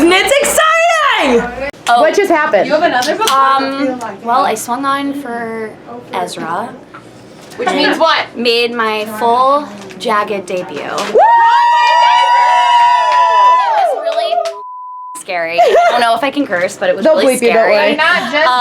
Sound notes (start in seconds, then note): 11.1 group cheering and yelling; 15.4 laughs